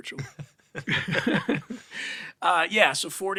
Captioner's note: laughs